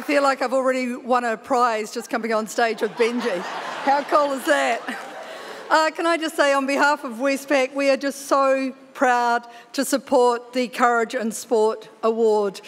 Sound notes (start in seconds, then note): 2.6 audience laughing